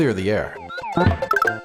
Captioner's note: bop!